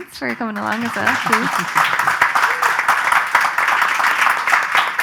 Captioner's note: audience applause